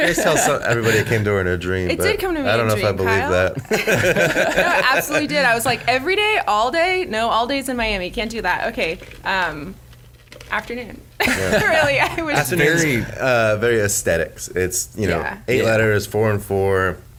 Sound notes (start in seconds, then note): 0.0 laughs; 3.6 everyone laughs; 11.2 chuckles